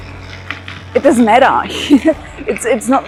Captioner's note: laughs